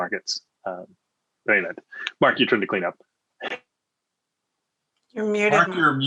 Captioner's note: laughs